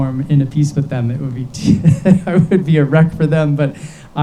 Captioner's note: laughs